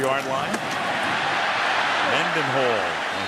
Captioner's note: cheering